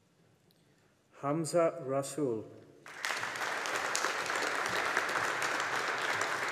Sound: audience applauding

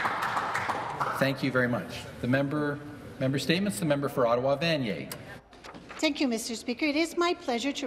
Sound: some Applause

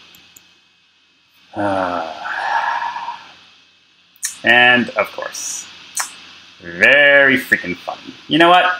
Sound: sigh

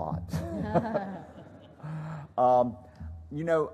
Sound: laughter

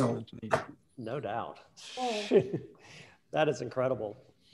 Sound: laughing

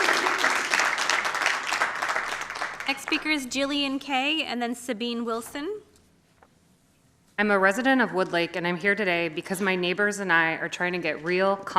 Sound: applause

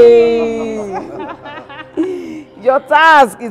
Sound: laughter

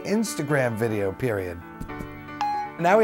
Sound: blip

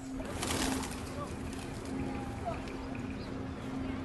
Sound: people chattering

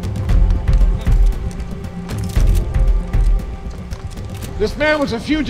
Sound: cameras click

